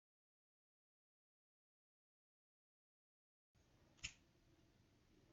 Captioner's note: weirdly Silent Snap; quiet Snap